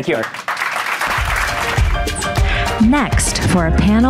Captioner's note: audience applauding; upbeat music